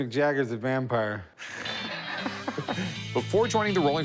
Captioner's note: laughs